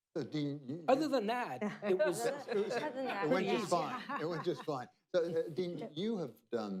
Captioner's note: laughter